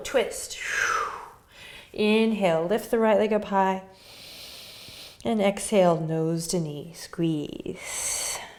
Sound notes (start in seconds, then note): 0.6 exhaling breath